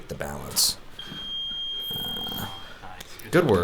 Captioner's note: beep